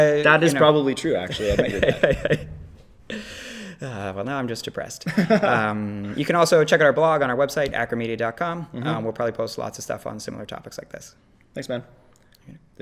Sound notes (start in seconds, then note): 0.0 laughs; 1.2 laughter